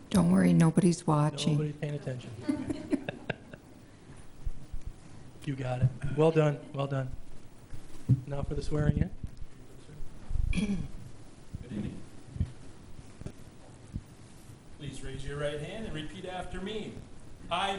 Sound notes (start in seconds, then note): 2.4 laughs